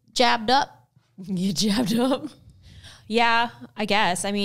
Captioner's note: laughs